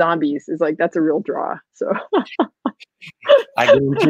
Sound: laughing

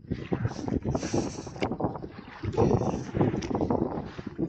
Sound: wind & paddling

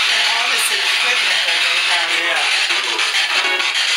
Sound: loud static noise continues

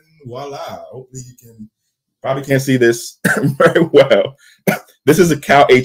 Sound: laughs

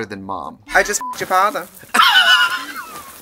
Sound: beep

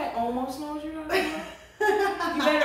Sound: laughter

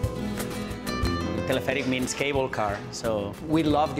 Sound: speaks Italian

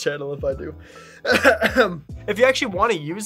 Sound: clearing throat

